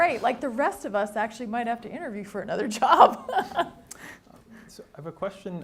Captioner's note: laughs